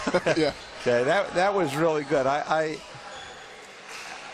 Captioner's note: laughter